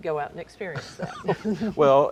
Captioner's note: laughs